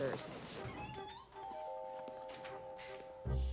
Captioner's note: door creaks; curious music